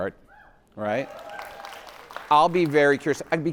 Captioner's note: attendees cheering; attendees applauding